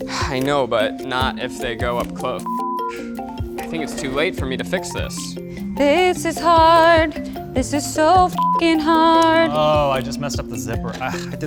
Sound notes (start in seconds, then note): 2.4 beep; 8.3 beep